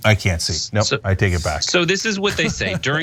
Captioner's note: laugh